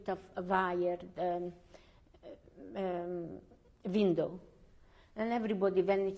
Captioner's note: pauses for 3 seconds